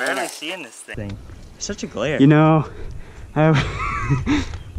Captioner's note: laughs